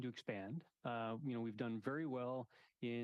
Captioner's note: speaking French